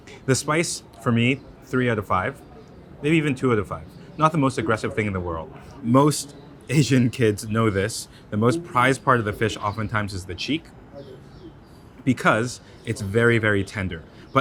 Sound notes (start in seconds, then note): 8.4 chuckles